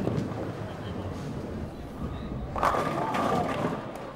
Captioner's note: ball rattles